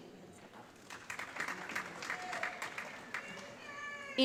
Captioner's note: applause